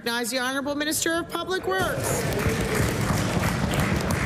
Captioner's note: applause